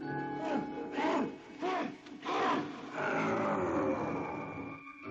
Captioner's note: muffled yelling